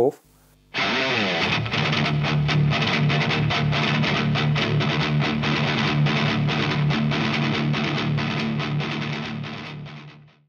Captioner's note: High gain sound